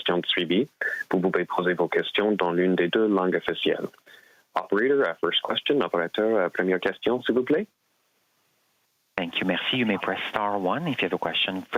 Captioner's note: speaking French